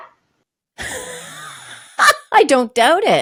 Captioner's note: laughing